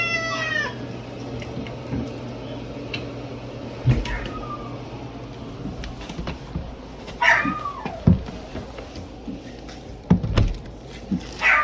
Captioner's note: Caprice continues meowing; bathroom door opens, then closes; Ella barks, howls, and whimpers